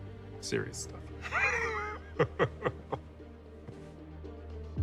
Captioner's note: laughing